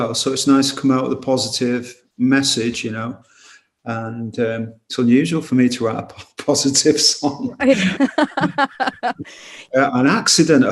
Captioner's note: laughs